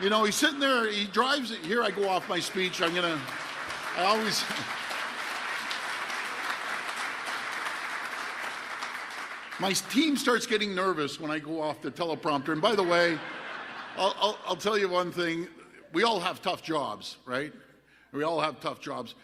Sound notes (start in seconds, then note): 9.6 applause